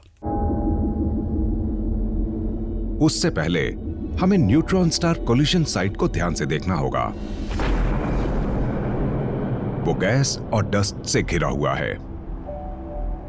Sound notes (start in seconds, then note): 8.7 explosion blasts